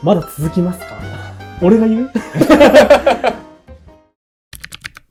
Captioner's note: laughs